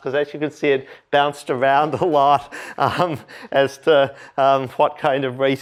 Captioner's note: laughter